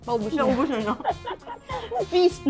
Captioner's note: laughs